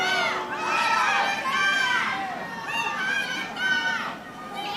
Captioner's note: audience yelling